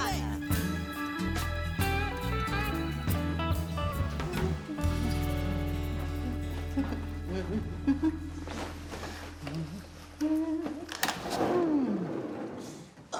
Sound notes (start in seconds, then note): 0.1 chill jazzy music; 3.3 Ernestine humming brightly; 11.8 sliding door scraping